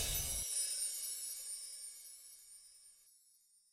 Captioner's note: windchimes